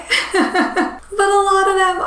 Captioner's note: laughing